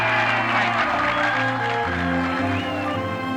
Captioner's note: cheering and applause